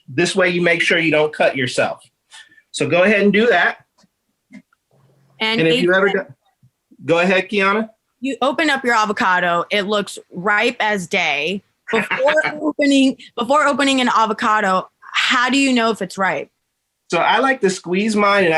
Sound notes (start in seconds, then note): 11.9 chuckling